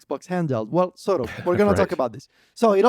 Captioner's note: laughs